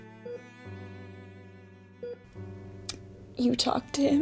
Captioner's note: heart monitor beeping